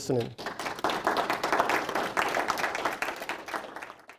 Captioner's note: applause